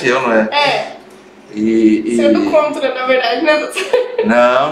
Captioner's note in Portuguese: risos